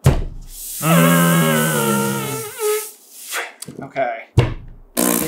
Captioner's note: blows raspberry into finger